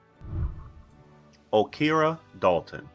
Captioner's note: whooshing